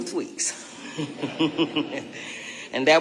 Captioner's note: chuckling